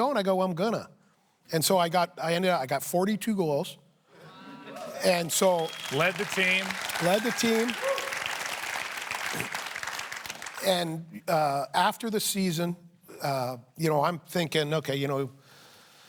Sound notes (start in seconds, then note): 4.7 applause